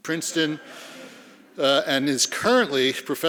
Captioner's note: laughing